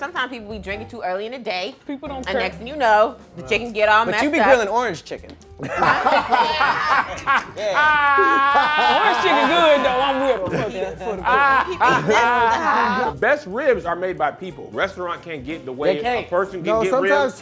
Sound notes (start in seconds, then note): 5.6 group laughing